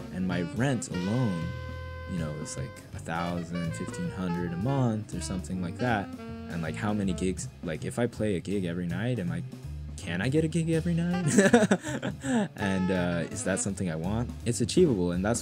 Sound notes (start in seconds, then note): 11.1 chuckles